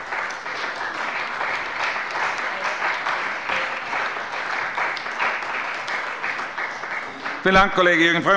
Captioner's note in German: Beifall bei dem BÜNDNIS 90/DIE GRÜNEN und der CDU